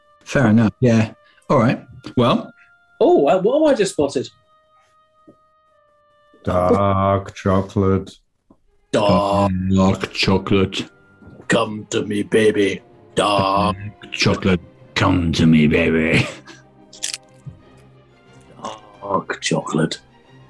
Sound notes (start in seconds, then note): 6.2 deep voice; 11.3 deep voice; 18.4 deep voice